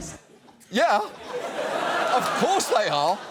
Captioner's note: studio audience laughs